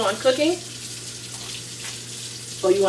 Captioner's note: water Running